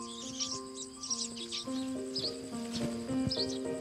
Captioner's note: birds twittering